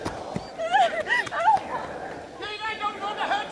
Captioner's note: Kate crying